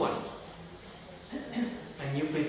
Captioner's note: clearing her throat